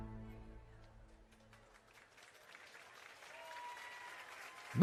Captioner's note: applause